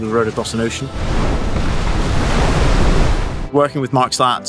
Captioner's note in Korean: 파도가 부딪히는 소리